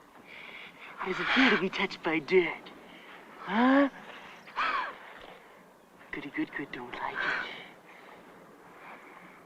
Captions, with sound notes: There's a few to be touched by dead. - Huh? - [ BREATHING HARD ] Pretty girl don't like it.